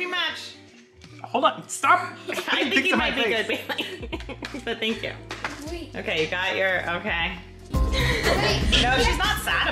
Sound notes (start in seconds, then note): 2.3 laughing; 7.4 dramatic music